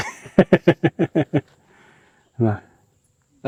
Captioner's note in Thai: เสียงหัวเราะ